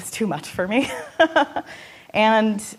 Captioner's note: laughing